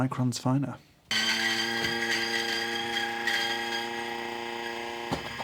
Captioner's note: coffee grinder whirring